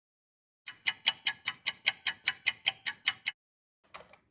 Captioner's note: sound of a ticking clock